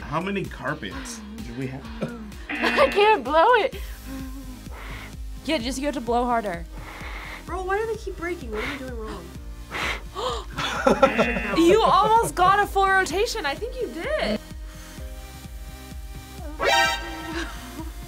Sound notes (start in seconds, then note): 2.5 buzzer; 9.6 React gasps; 10.5 laughs; 11.1 buzzer; 16.4 tense musical sting